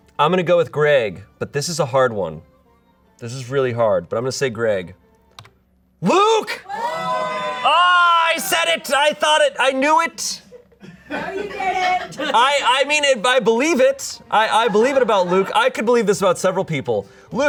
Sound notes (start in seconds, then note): 10.8 audience laughing